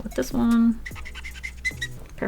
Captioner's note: agonizing squeak of a dieing marker